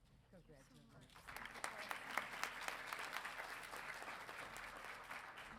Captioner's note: audience applauding